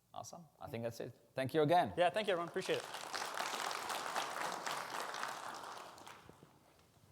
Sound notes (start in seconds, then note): 2.1 audience applauding